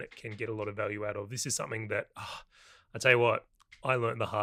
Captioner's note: exhaling